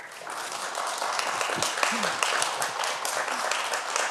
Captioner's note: everyone applause